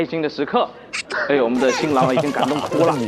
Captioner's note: tearing up